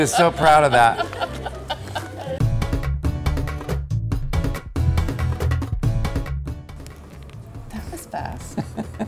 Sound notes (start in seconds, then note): 0.0 laughs; 2.9 upbeat music